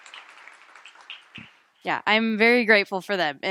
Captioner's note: applause